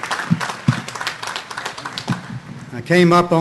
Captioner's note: audience applauding